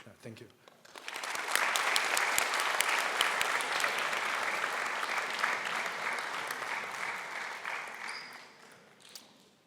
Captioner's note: applause